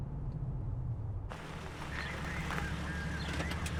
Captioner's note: radio dispatch chatter